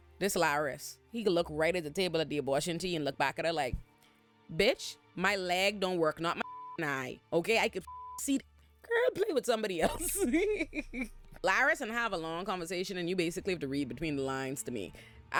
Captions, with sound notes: This Laris, he could look right at the table at the abortion tea and look back at her like, bitch, my leg don't work, not my (beep) eye, okay? I could (beep) see the girl play with somebody else. (laughs) Laris and have a long conversation, and you basically have to read between the lines to me.